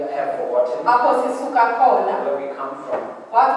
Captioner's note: woman speaking foreign language